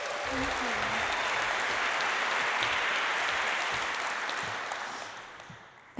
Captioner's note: applause